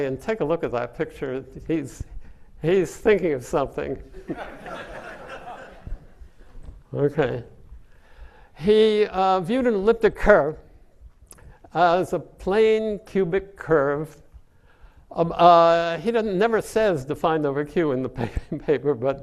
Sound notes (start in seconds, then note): 4.2 audience laughing